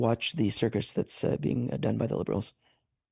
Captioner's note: speaking French